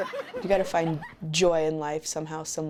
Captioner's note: laughter